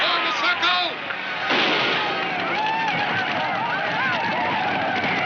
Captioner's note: gunshot fires